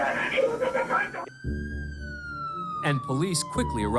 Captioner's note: siren wailing